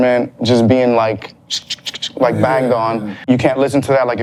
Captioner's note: makes percussive sound